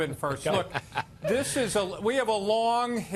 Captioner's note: laughter